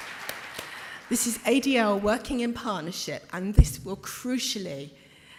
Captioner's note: applause